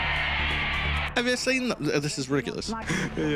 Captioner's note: imitating accent